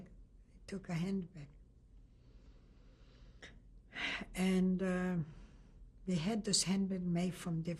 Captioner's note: pauses for 3 seconds